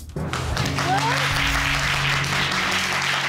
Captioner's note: audience applauding